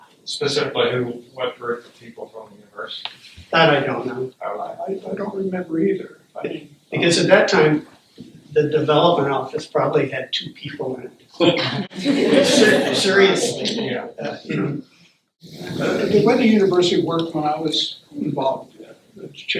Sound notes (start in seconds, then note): 15.1 laughter